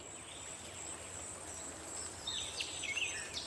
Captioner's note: birds chirping